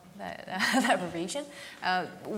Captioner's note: laughs